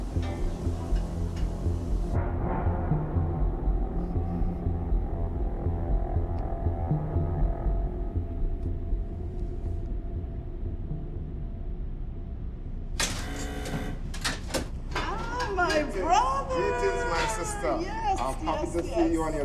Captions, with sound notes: (lock buzzing) - Oh, my brother! - It is my sister! - Yes, yes, yes!